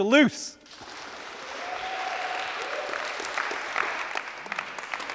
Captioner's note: applause